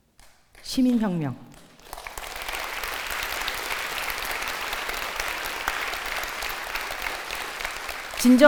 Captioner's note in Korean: 박수